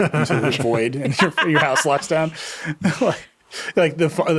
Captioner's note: laughing